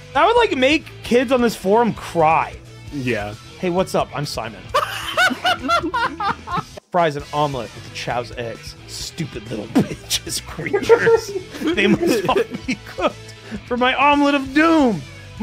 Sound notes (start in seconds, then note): 4.7 laughs; 9.7 laughs